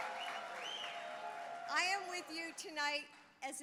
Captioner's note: applause